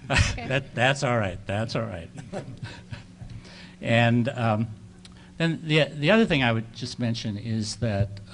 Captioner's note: chuckles